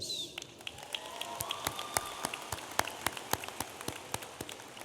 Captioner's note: audience applauding